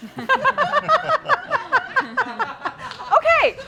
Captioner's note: laughter